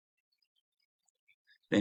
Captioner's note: silence